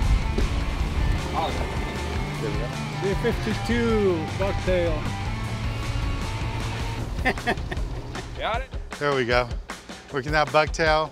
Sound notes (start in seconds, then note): 2.7 lively music playing; 6.8 chuckling